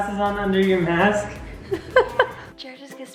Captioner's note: chuckles